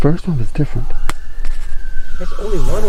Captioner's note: animals howling